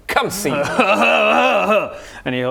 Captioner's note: happy troll noises